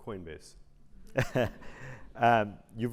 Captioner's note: laugh